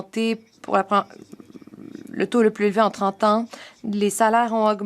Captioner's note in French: voix de l'interprète